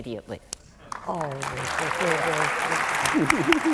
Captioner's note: applause